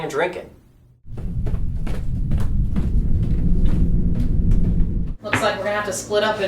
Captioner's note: footsteps clicking